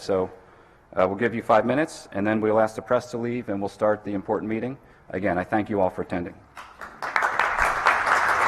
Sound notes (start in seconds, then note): 6.5 applause